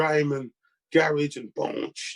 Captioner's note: beatboxing